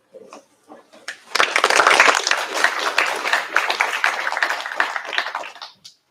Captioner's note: applause